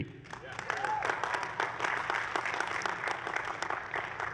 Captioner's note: applause